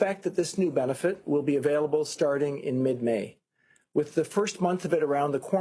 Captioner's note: speaking FRENCH